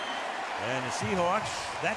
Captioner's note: cheering